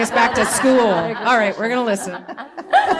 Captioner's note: laughter